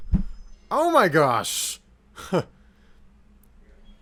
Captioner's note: voicebox noises cease